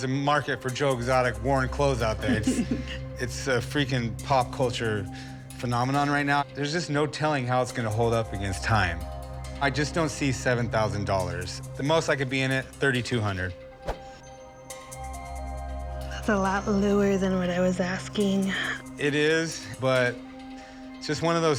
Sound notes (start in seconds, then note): 13.4 inhales sharply